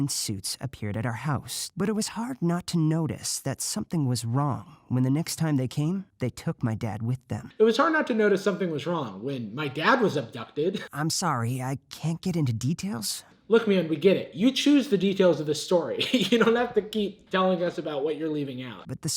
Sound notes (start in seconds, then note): 15.9 laughs